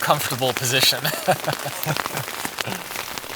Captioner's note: both laughing